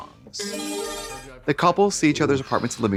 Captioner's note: bright chime